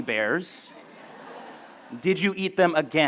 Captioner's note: laughter